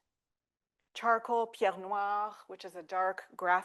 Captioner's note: speaking French